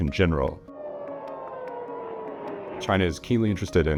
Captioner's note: munitions whirring